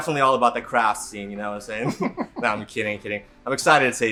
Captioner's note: laughs